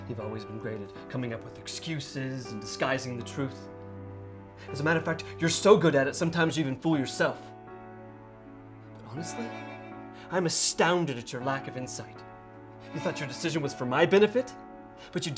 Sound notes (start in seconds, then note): none